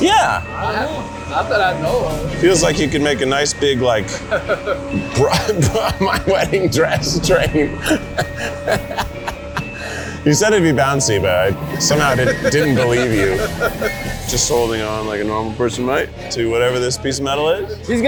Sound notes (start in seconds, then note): 4.0 trainer laughing; 7.9 laughing nervously; 13.3 trainer laughing